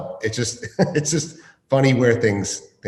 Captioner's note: laughs